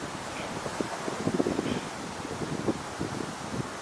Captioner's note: grunts